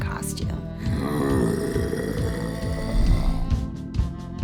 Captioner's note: growl